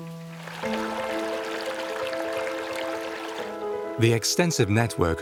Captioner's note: water sloshes